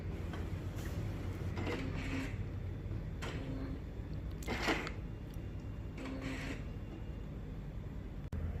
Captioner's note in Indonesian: suara mesin printer